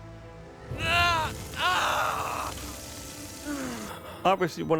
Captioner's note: screaming